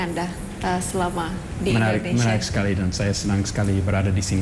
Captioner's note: non-english speech